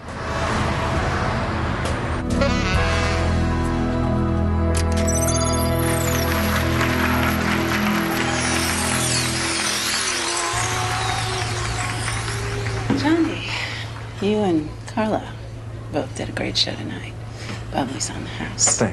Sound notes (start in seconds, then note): 2.3 свири на саксофон; 8.2 аплодисменти